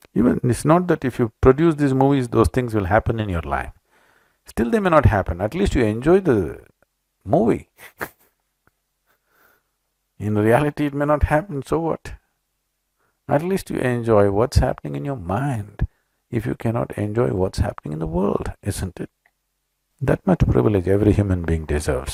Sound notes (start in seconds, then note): 7.8 laughs